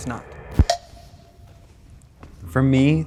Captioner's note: people walking